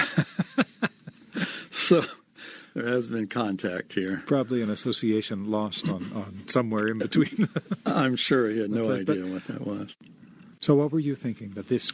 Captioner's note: laughs